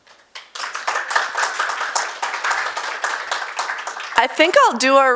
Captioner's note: audience applauds